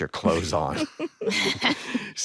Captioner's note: all laugh